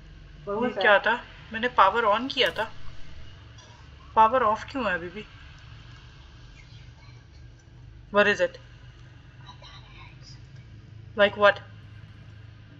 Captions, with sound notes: -What was that? -I turned on the power. Why is it still off? what is it? [Whispers] -I thought I heard something. -Like what?